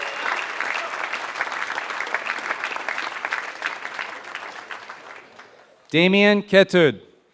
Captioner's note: applause